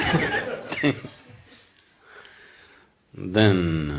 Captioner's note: laughs